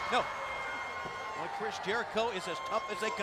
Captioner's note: crowd cheering